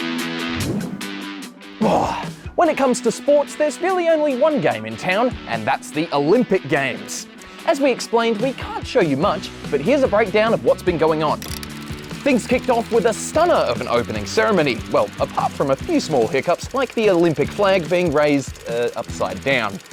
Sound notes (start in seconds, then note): 0.9 groans